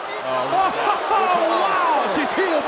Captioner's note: laughing